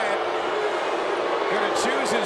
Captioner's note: crowd boos